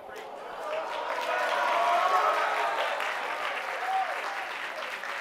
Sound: applause

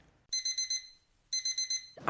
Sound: alarm

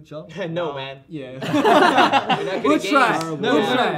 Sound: laughing

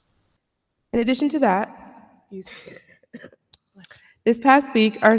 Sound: coughs

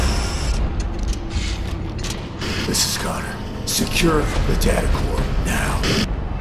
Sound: radio

